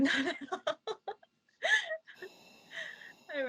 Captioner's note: laughing